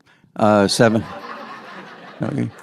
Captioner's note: audience laughs